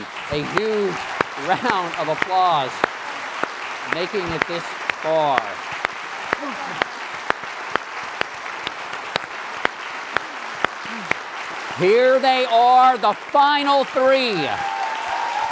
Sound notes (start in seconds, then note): 10.9 applause; 15.3 applause and cheering